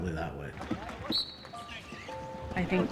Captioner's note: whistle